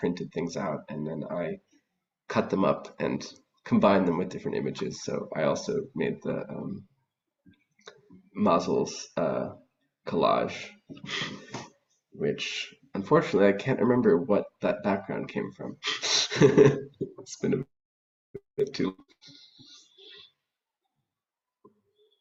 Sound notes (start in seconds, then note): 15.8 soft laugh